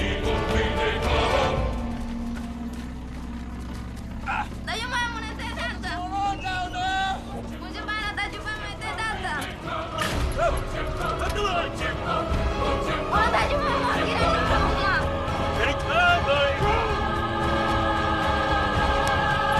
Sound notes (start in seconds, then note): 4.6 speaking native language; 7.0 speaking native language; 8.9 slam!; 12.3 speaking native language